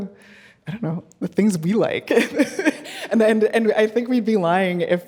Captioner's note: laughing